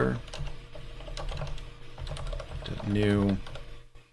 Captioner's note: keyboard keys clanking